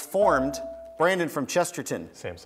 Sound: buzzer beeps

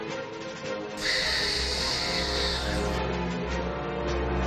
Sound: stabilizer gasses whooshing

